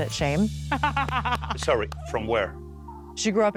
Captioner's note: laughing